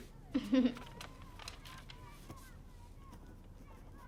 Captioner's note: Lena chuckling